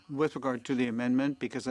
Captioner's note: speaking French